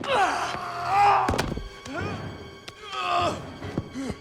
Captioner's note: Knox and Dalton grunting; blows thudding; Knox grunting